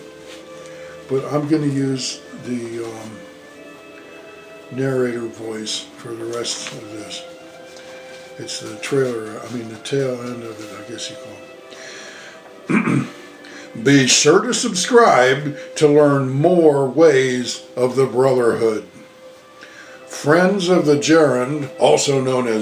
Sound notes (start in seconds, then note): 9.3 clearin throat